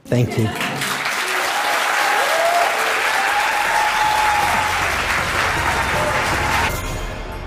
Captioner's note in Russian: Аплодисменты